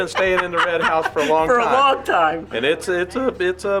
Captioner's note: laughs